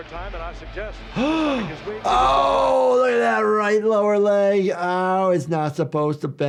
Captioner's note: gasps